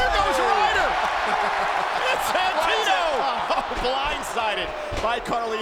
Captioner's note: applause